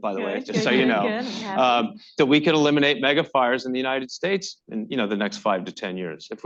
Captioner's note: laughter